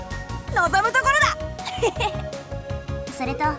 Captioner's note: chuckle